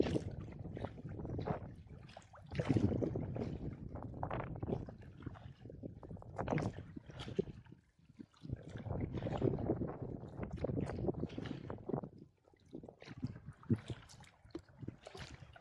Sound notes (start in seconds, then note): none